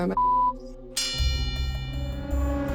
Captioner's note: bell dings